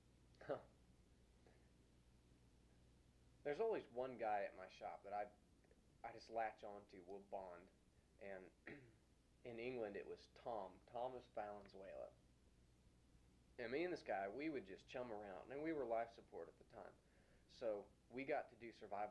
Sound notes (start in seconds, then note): 1.2 chuckles